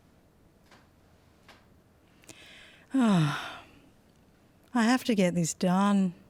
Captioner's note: sigh